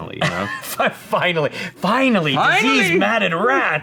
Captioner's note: laughs